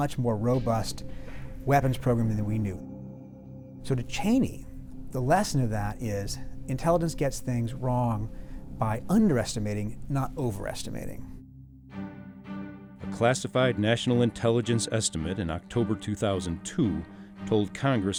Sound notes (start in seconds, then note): 13.0 voiceover